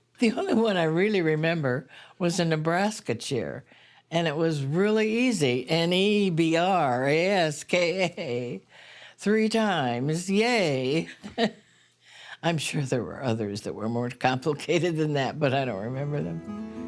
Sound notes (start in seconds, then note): 11.2 laughing